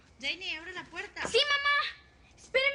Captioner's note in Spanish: Toques en la puerta